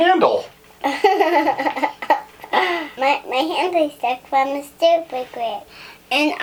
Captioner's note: laughing